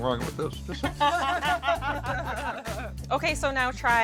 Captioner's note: laughing